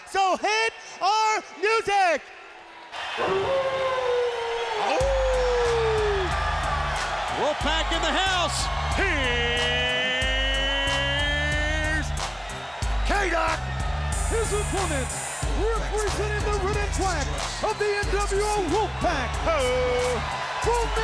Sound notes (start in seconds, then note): 3.2 wolf howls; 5.2 audience cheers